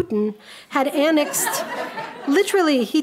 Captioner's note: audience laughing